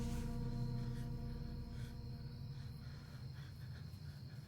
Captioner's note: insects chirping